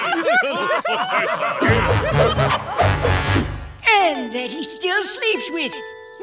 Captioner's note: laughing